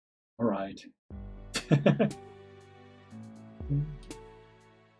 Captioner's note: chuckles